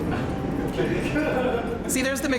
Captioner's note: crew laughing